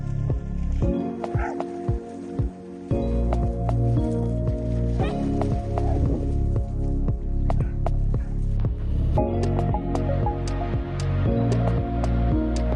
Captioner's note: bark